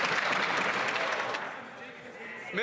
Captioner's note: some Applause